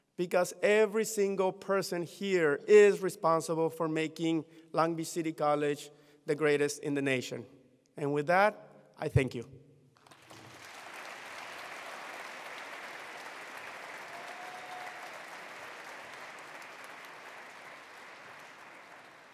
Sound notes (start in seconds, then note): 10.1 attendees applauding